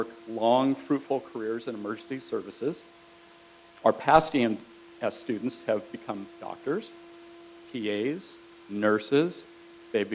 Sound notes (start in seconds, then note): none